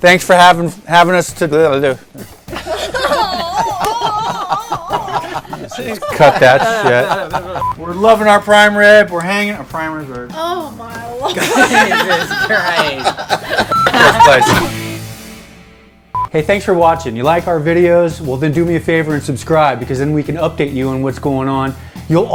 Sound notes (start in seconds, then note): 2.4 laughing; 3.1 yelping; 7.6 beeping; 11.2 laughing; 13.6 beep; 14.7 electronic vibrating; 16.0 beeping